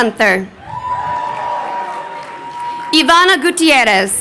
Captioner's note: crowd cheering